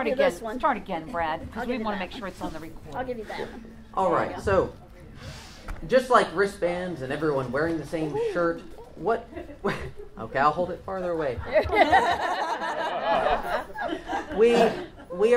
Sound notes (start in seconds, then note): 8.1 laughs; 8.6 quietly; 11.5 audience laughs